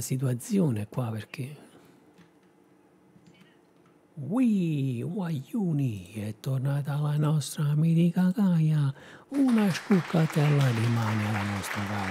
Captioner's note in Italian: Applauso